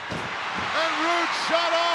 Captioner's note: audience cheering; body thuds